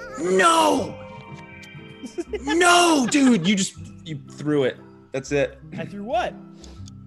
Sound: laugh

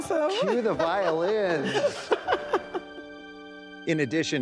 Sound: laughing

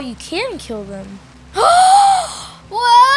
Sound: loud gasping

